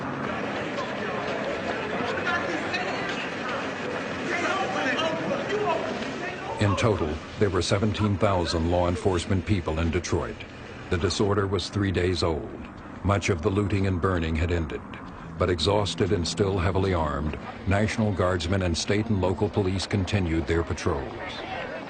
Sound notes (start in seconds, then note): 2.2 yelling